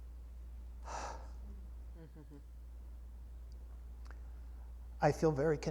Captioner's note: exhales with lament